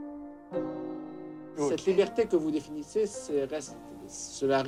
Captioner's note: interviewer, in French